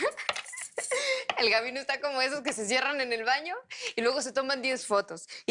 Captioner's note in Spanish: Riendo